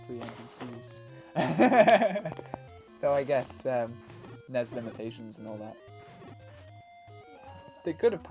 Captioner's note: laughs